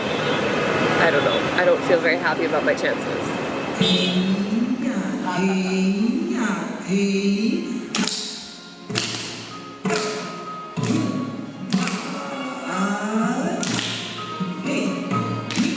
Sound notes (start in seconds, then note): 6.1 traditional singing music; 9.6 tapping feet sound